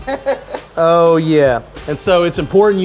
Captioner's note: laughing